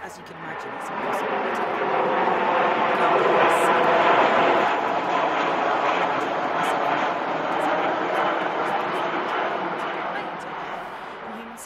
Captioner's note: jet engine noise